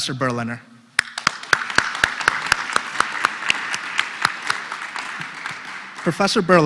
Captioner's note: applause